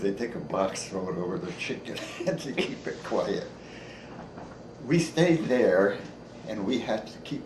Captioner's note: chuckles